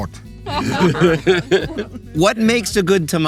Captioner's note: people laughing